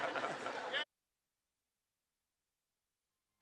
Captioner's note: chuckles